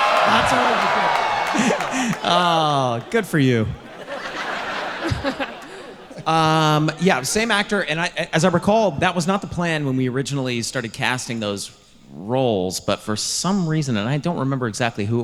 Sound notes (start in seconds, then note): 0.0 audience cheering; 4.1 audience laughing